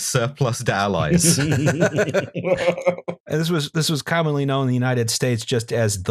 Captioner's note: laughter